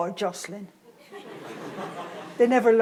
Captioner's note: audience laughs